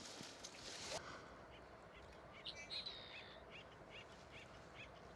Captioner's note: birds chirping